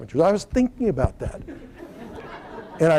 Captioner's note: laughter